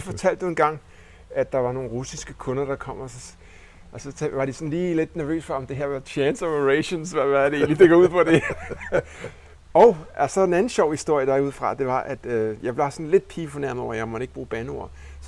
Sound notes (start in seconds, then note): 6.8 laughing; 6.9 giggles; 8.5 laughing